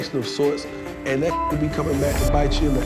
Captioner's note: beeping